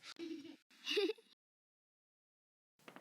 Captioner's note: giggling